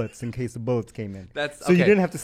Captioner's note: laughs